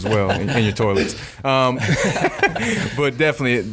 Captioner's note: laughing